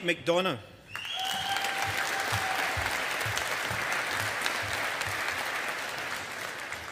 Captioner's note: audience applauding